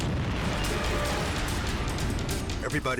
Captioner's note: explosion blasting